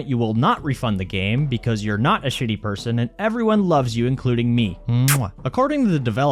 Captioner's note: mwah